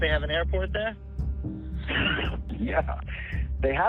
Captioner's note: chuckles